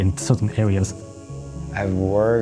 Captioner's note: cicada sound